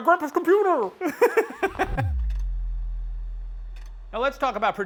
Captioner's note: laughs